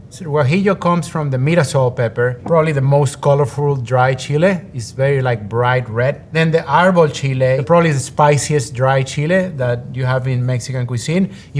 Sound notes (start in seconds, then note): none